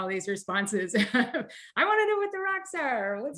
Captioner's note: chuckles